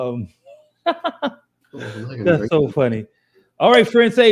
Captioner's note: laughs